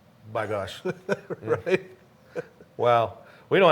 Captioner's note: chuckles